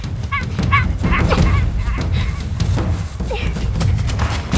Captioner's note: supernatural sounds